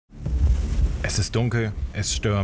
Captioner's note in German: Rauschen